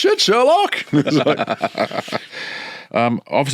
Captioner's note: both laughing